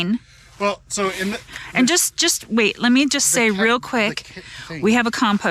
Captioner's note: stuttering